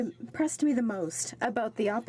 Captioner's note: speaking French